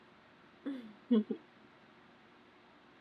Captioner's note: laughs